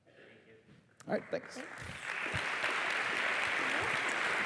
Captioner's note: applause